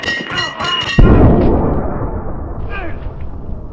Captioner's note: explosion in distance